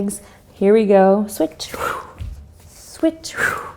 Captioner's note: exhales